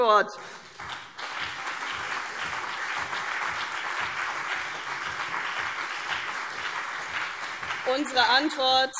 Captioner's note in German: Beifall CDU und BÜNDNIS 90/DIE GRÜNEN - Zurufe SPD und DIE LINKE